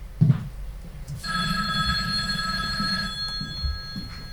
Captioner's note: phone ringing